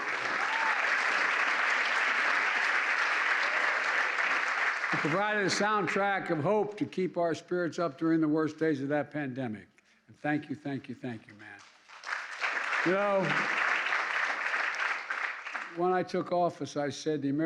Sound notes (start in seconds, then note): 0.0 applause; 11.6 applause